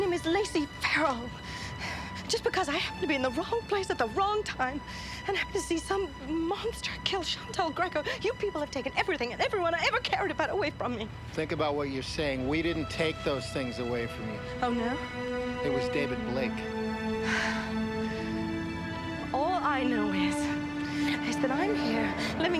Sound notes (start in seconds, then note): 17.2 sighing